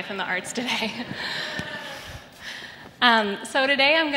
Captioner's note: laughter